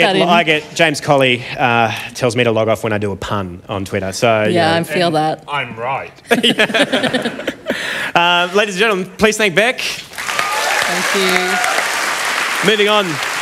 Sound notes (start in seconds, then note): 6.2 laughter